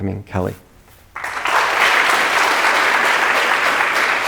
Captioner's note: audience applauding